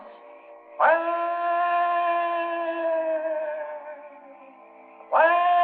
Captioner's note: eerie howling